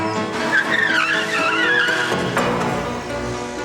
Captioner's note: tires screaming